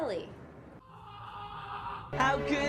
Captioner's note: yelling